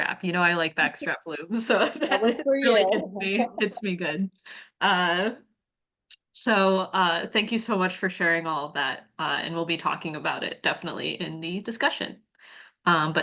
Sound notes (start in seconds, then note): 1.6 chuckles